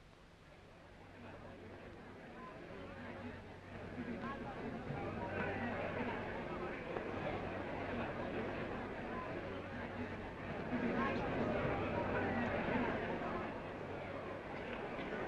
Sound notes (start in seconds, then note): 1.1 crowd murmuring